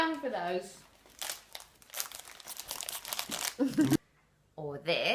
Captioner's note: bag crinkles; laughs